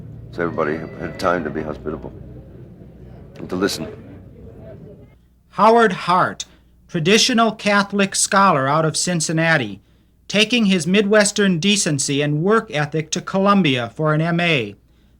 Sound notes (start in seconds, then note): 5.0 voiceover